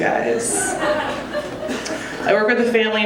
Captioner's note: audience laughing